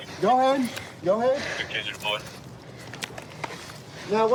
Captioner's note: radio cahtter